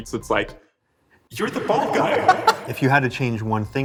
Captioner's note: laughs